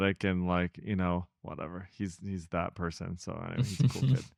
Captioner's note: laughs